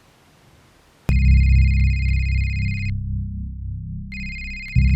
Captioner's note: phone ringing